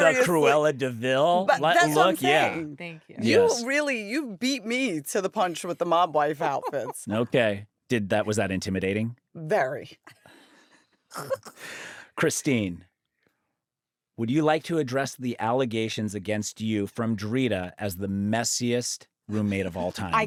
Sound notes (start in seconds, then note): 11.2 laughs